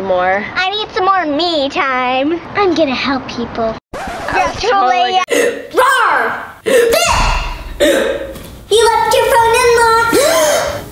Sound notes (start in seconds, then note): 4.0 record scratches; 6.7 hiccups; 10.3 gasps